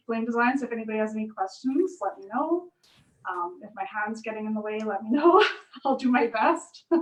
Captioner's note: laughs